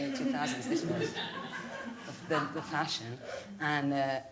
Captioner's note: audience laughing